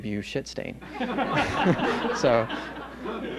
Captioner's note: laughter